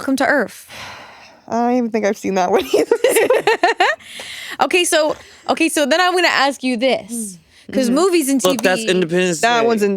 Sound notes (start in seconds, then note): 3.2 all giggling